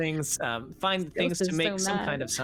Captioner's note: laughing